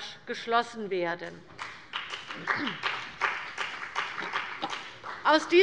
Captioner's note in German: Beifall bei der CDU und dem BÜNDNIS 90/DIE GRÜNEN